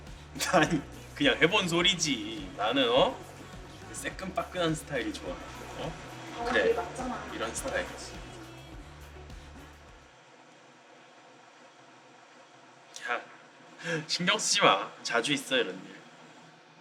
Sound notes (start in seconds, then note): 9.2 music stops; 10.9 awkward silence